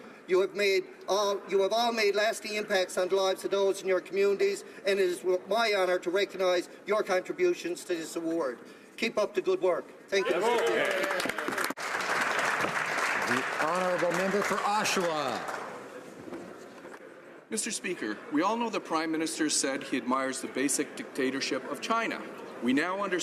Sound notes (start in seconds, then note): 14.5 some Applause